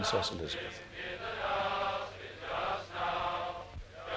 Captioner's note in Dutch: Crowd